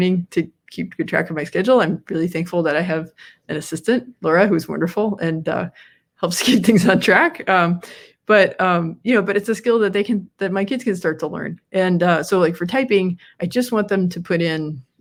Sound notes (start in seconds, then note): 6.6 laughs